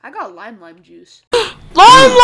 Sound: gasp

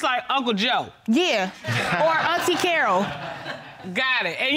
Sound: chuckling

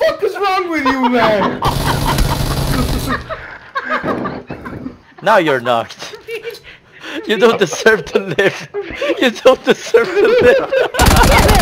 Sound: laughing

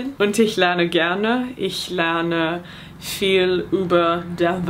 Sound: speaking in foreign language

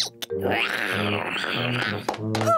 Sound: george roars menacingly

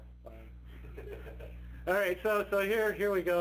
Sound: participants chuckling

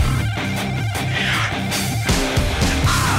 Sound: gasps

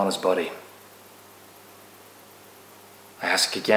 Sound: silence

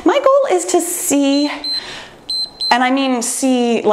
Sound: timer beeps

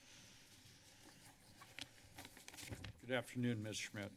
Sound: paper flipping

